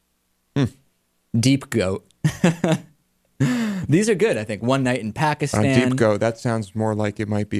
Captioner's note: laughs